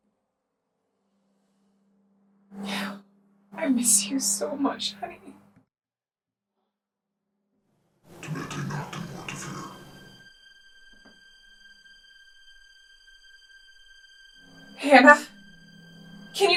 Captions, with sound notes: - [sighs] I miss you so much, honey. [Chemock speaks Latin] [suspenseful music] Hannah?